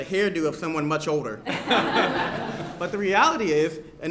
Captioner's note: laughter